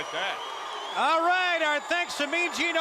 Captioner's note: crowd cheering